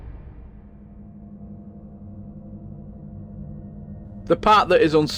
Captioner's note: sound FX; drone sound